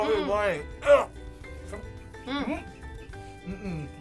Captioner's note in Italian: conati di vomito; ridacchia